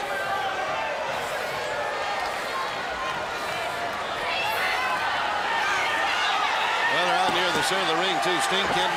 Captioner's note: crowd cheering; crowd chatter